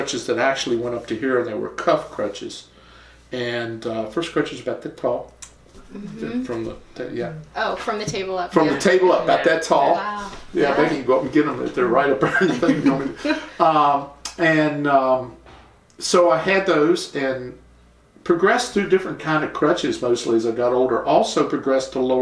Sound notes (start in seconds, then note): 12.2 laughter